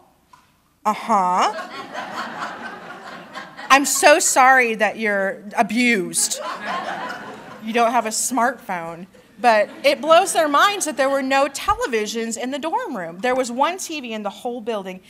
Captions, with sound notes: "Um-hmm." [laughter] I'm so sorry that you're abused. [laughter] You don't have a smart phone." But it blows their minds that there were no televisions in the dorm room. There was one TV in the whole building.